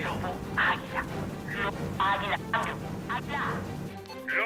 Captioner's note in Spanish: Voz en la radio